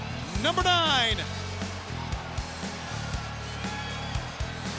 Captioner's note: audience cheering